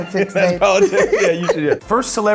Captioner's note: laughs